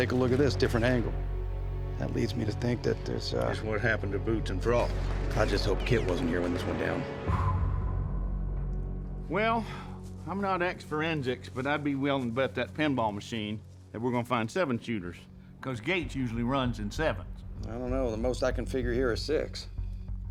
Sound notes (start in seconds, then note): 7.7 blowing out